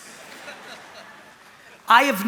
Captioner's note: laughter